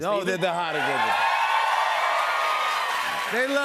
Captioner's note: cheers and applause